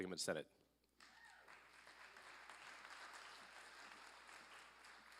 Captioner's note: applause